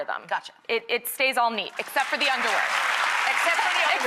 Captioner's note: applause